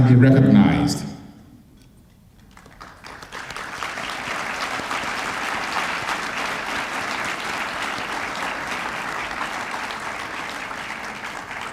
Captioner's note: applause